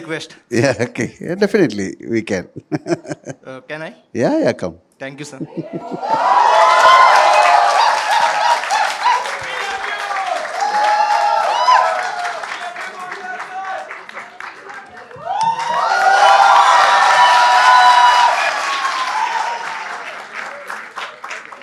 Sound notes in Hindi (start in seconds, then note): 7.7 तालियाँ